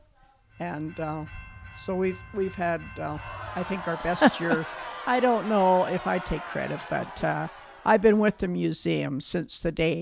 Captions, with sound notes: So we've we've had i think our best year (Laughs) I don't know if I take Credit but... I've Been with the museum since the day